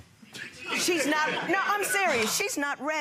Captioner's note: laughing